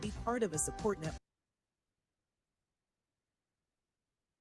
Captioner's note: audio drops